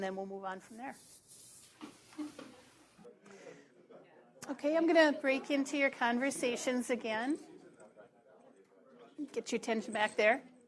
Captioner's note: pause